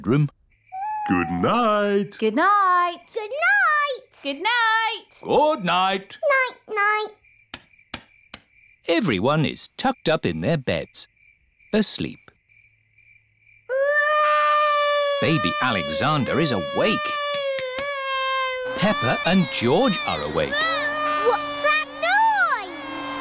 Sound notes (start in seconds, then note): 13.2 baby alexander crying; 22.9 vacuum cleaner whirring